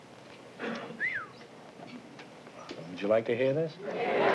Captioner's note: whistles